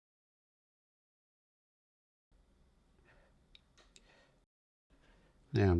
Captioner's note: silence